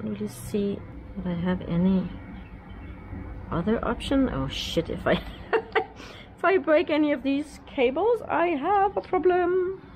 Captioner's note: laughing